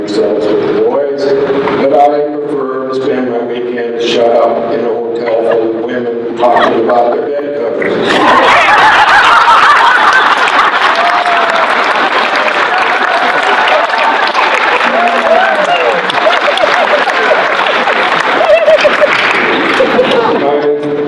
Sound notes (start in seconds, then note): 8.0 laughter; 12.7 applause